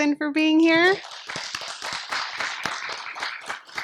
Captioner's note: applause